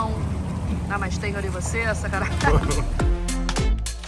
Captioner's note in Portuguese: risos